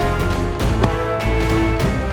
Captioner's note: car door closing